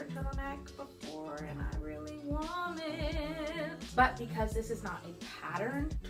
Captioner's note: singsong